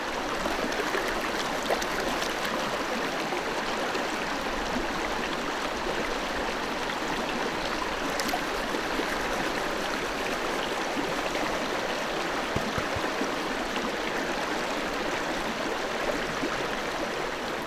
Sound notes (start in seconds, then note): 0.7 rushing water; 12.5 tap tap